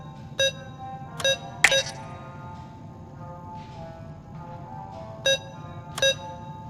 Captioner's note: beeping; beeping